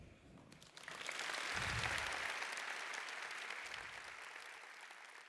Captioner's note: applause